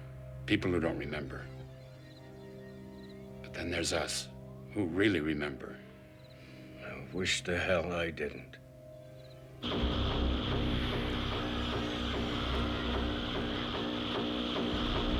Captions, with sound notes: people who don't remember. But then there's us, who really remember. I wish to hell I didn't. ( mechanical humming )